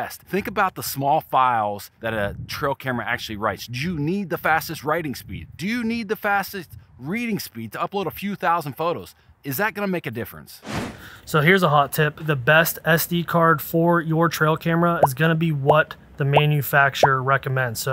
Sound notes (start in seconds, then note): 10.6 whooshing